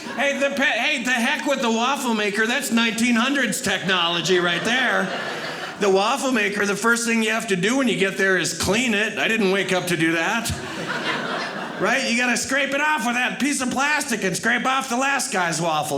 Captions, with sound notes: Hey, the heck with the waffle maker. That's 1900's technology right there. The waffle maker, the first thing you have to do when you get there is clean it. I didn't wake up to do that. (audience laughing) Right? You got to scrape it off with that piece of plastic and scrape off the last guy's waffle.